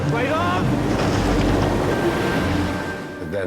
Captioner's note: waves crashing